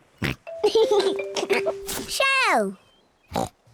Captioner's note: oinks and giggles